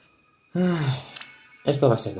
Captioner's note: sigh